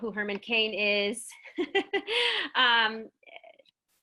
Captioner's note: giggles